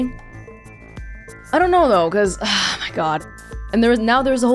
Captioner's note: exhales